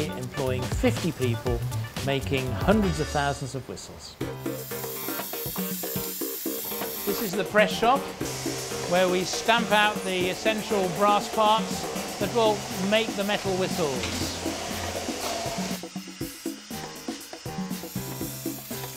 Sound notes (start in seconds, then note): 4.5 upbeat music; 5.5 loud Machinery noises; 14.4 loud machinery noises